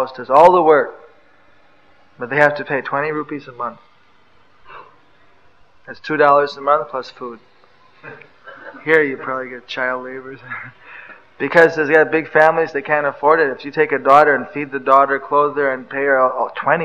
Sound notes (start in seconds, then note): 8.0 laughs